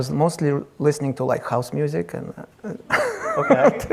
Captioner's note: laughs